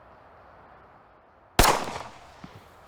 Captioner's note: gunshot